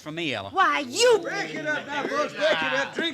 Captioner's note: indistinct chatter